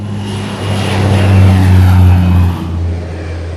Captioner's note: plane taking off in backround